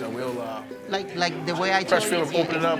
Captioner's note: participants laughing and chatting